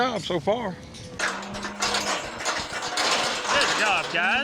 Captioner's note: gate closing